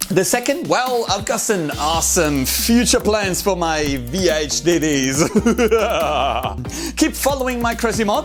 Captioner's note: evil laugh